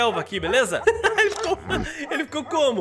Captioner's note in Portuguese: risos